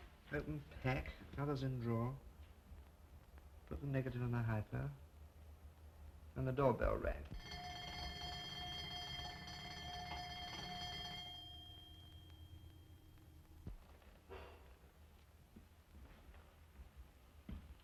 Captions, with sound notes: Open pack, covers in the drawer. Put the negative in the hypo. Then the doorbell rang. [ Doorbell ]